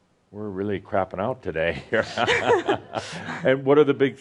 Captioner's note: they chuckle